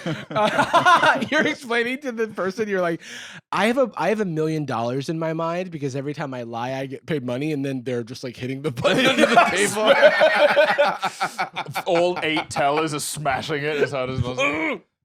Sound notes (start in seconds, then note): 0.0 laughs; 8.8 both laughing